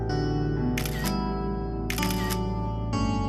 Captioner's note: shutter sounds